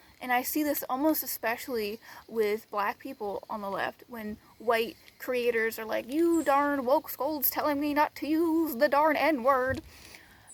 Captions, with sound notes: and I see this almost especially with black people on the left. When white creators are like [mocking tone] "You darn wokescolds tellin' me not to use the darn N word!"